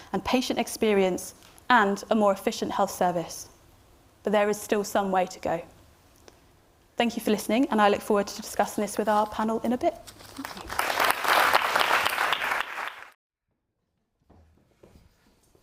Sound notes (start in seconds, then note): 10.3 audience applauds